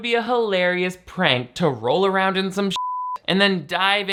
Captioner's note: beep